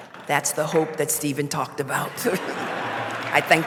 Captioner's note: laughter; applause